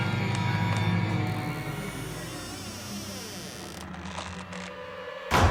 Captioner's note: door creaking; suspenseful music